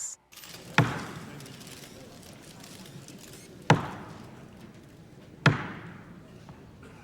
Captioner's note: cameras clicking; gavel banging